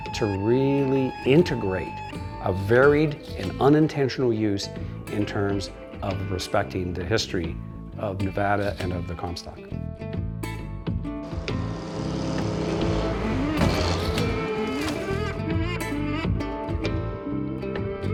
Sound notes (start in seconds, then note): 13.4 weight crashes